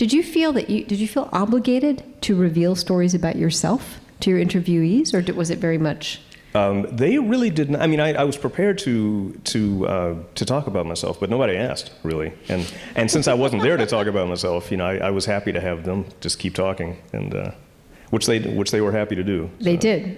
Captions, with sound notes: did you feel obligated to reveal stories about yourself to interviewees, or was it very much? - They really did not, I was prepared to talk about myself, but nobody asked, really. (audience laughing) And since I wasn't there to talk about myself, I was happy to have them just keep talking. Which they were happy to do.